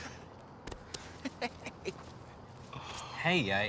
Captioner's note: laughs